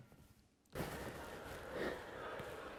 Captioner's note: none